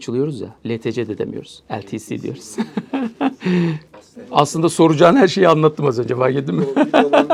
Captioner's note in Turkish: kahkaha